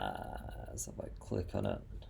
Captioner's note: quietly